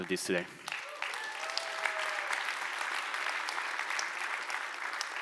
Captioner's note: audience applauds